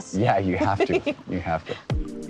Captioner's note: laughs; bright music